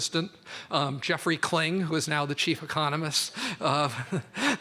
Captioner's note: laughs